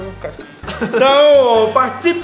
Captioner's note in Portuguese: Risos